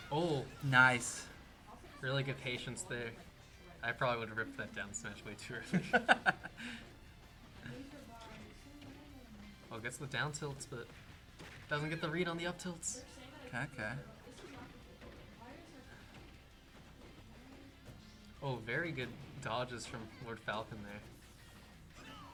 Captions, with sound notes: Nice. Really good patients there. I probably wouldn't represent them smash away. Sure. [LAUGHTER] Well, guess what? Downfield split doesn't get the read on the up tilts. Okay. Very good dodgers from word Falcon there,